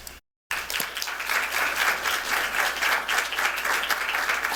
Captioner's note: applause